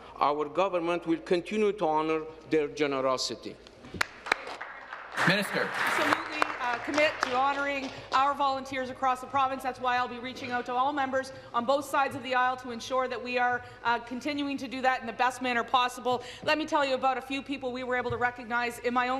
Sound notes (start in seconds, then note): 7.2 applause